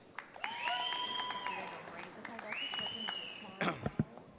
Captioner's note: audience applauds